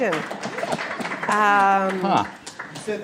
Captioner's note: applause